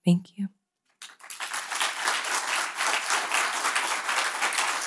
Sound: audience applauding

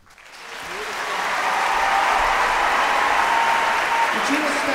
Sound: applause, cheers

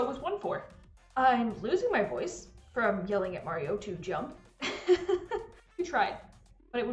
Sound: laughs

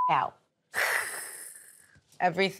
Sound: beep; hisses

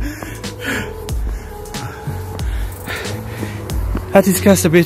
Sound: suara ngos-ngosan saya + maksa senyum

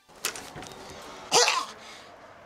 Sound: hacking

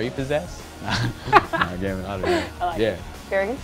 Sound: laughs

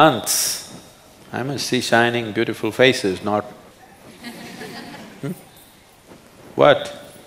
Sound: laughter

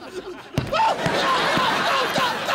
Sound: screaming

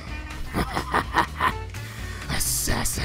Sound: evil Laughter

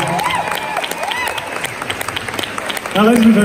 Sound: crowd cheers

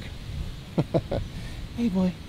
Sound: laughs

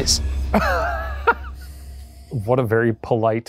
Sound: laughing

